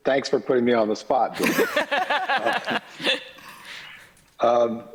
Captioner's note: laughter